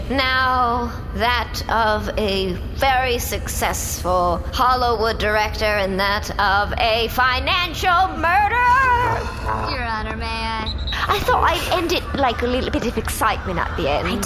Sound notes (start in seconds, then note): 10.6 sports whistle blows; 11.3 posh accent